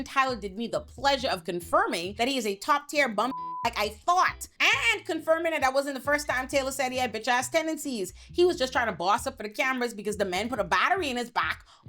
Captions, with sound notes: Tyler did me the pleasure of confirming that he is a top tier bum (beep) like I thought. And confirming that I wasn't the first time Taylor said he had bitch ass tendencies. He was just trying to boss up for the cameras because the men put a battery in his back